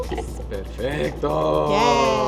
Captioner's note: speaking Spanish